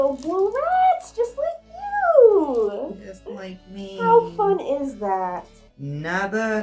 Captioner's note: laughing